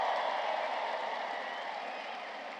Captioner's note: applause